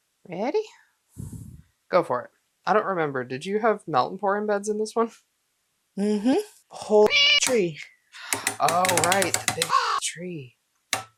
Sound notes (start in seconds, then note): 7.1 meow; 9.7 caw